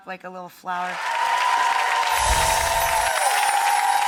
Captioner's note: applause